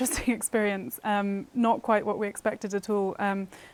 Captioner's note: laughter